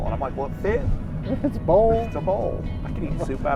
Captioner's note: laughing